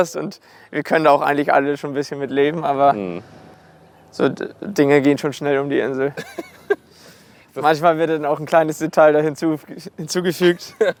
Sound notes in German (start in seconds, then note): 6.0 lacht